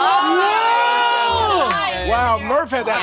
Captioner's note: players shouting